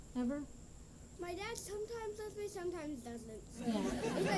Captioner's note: laughter